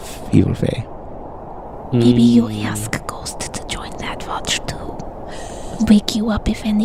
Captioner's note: whispering